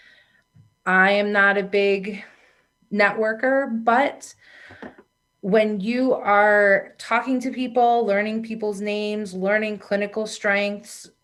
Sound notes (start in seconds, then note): none